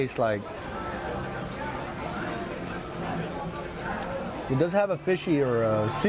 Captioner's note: restaurant chatter